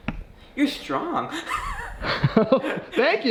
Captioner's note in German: lacht